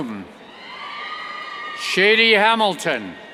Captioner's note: cheers